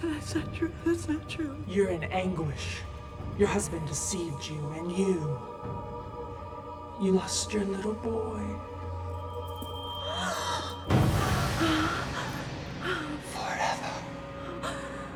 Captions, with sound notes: - That's not true, that's not true. - You're an anguish. Your husband deceived you, and you, you lost your little boy. (Bryn gasps) Forever.